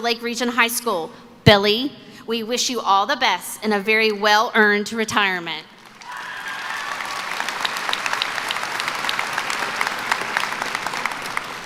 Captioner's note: applause